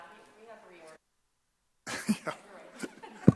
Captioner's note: chuckling